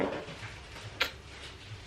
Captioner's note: smacks lips